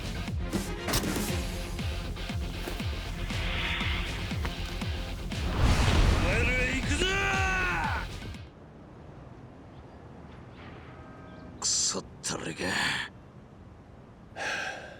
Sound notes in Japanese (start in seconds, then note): 6.3 叫び声